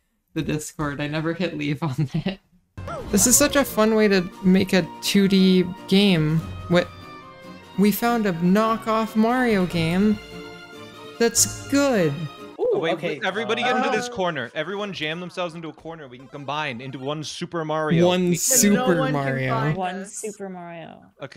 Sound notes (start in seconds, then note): 2.0 giggles; 7.7 echoey past